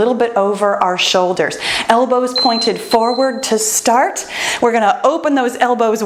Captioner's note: timer beeps